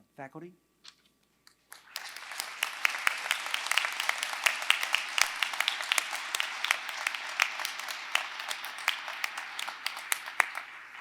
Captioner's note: applause